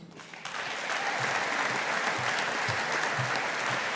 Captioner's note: audience applauding